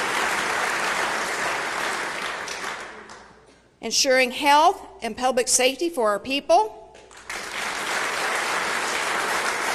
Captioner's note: applause